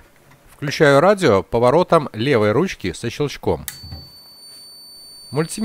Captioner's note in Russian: звучит писк в режиме «прозвонка»